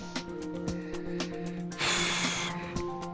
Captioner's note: sighs